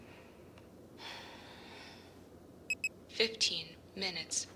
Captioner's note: exhaling